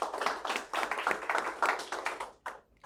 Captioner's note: applause